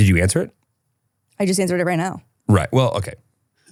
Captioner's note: laughing